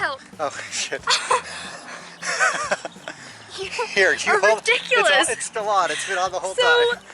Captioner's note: laughter